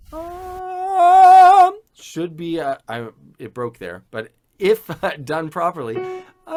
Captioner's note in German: lacht